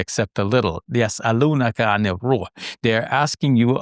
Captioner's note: speaks in foreign language